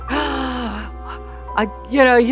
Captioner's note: gasps in wonder